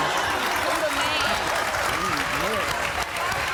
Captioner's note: applause; shouts and applause